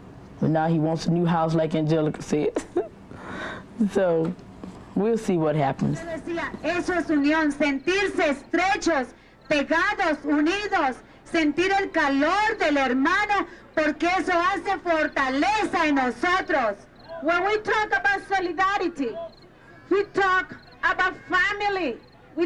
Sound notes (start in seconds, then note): 11.3 speaking Spanish